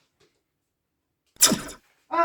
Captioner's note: laser blast